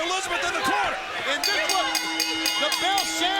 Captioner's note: bell dings